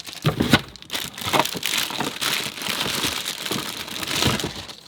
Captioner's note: plastic rustling